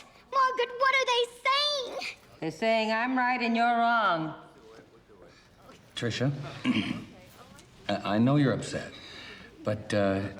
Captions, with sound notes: Margaret! Margaret, what are they saying?! - They're saying I'm right and you're wrong. (Nash clearing throat) - Tricia, I know you're upset, but, uh,